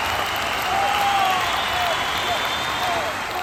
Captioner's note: cheering